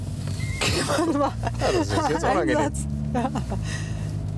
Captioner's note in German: lacht